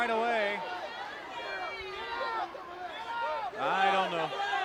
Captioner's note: crowd chatter